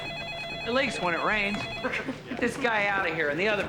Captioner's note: all laughing